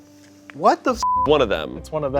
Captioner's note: beep